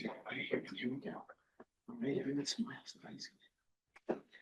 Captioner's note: quiet chatter